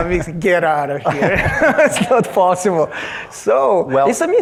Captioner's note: laughs